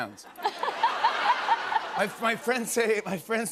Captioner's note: laughter